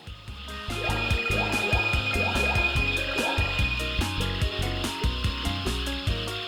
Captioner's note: upbeat goofy music; objects chiming